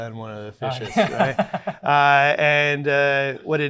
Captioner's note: laughs